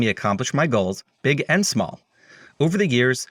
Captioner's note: none